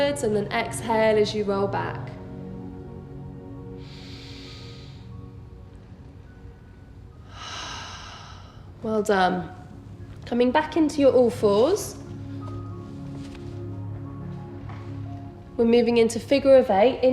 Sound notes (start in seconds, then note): 3.7 breathing deeply